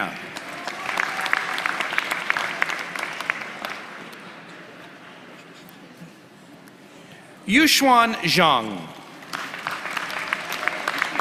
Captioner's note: applause